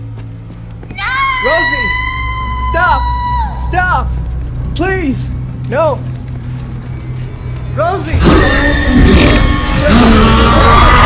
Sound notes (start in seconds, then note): 0.9 screaming; 8.2 crying out loud